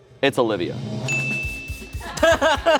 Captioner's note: bell dings; laughs